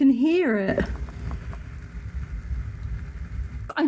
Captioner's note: fizzing